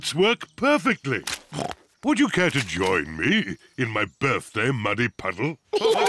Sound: snorts

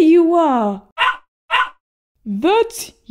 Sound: bark! Bark!

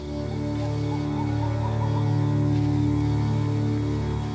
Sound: bird hooting

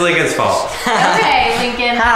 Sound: laughing

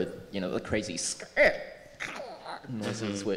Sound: imitating synthesized noise

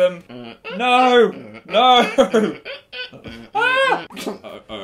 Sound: laughs

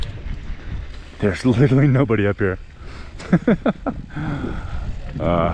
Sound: laughs

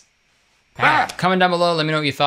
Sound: yells

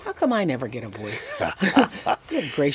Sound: both laugh

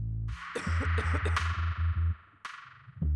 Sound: coughs

